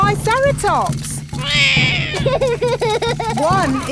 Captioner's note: roars; laughs